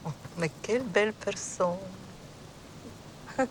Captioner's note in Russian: говорит по-французски